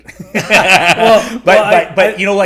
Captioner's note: laughing